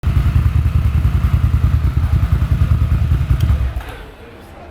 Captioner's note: engine running